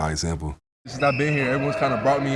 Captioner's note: whistle blowing; group chattering